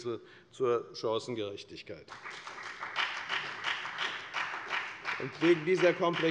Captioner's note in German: Beifall bei der FDP